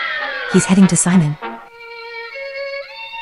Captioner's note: whispering